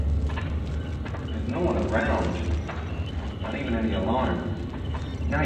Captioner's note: via radio